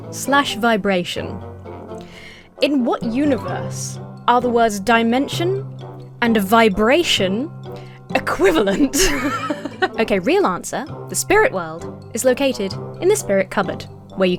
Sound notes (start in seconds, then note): 8.4 laughs